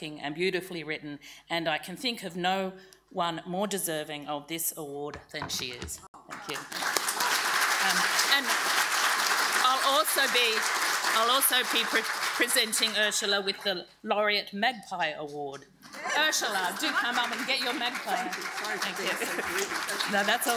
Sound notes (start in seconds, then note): 6.3 audience applauding